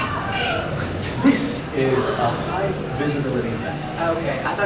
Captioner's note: whispering